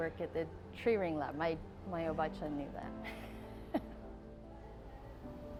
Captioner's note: laughing